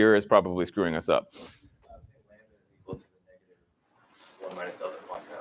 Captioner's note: none